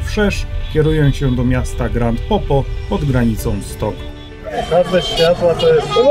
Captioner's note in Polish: dźwięki ulicy